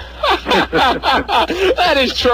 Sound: laughs

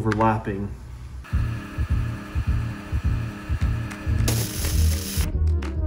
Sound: machine whirring; upbeat music

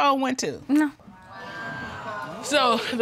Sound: audience exclaiming

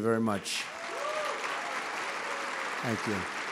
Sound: applause

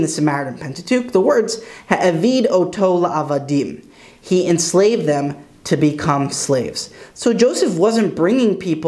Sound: Hebrew

